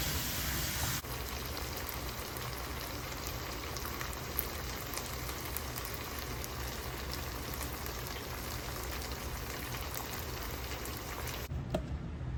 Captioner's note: bubbling asmr